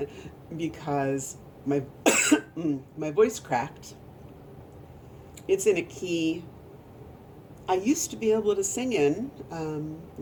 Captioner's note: coughs